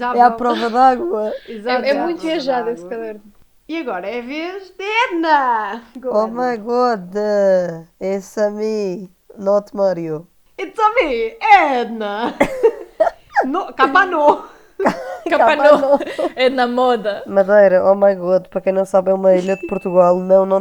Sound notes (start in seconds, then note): 10.9 with a bad Italian accent; 12.0 laughs; 14.8 laughs continues